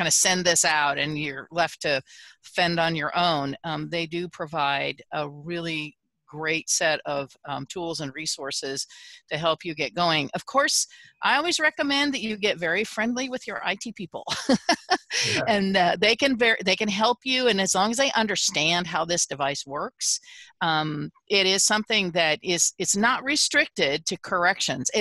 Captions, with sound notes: of send this out and you're left to fend on your own. They do provide a really great set of tools and resources to help you get going. Of course, I always recommend that you get very friendly with your IT people. [LAUGHTER] They can help you. And as long as they understand how this device works, it is something that is it's not restricted to corrections.